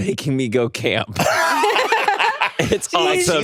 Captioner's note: everyone laughs